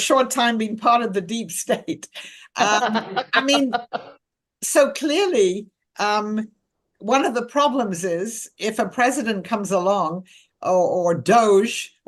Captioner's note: laughter